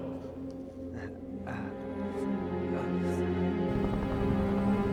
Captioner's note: exhales sharply